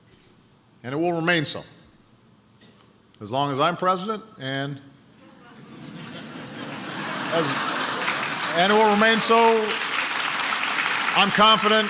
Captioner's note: laughter and applause